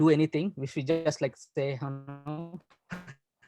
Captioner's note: glitch